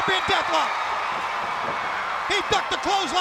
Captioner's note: crowd cheering